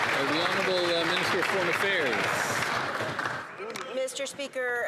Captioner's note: some Applause